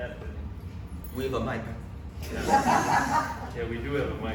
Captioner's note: audience laughs